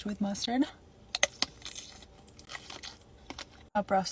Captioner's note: sausage crunching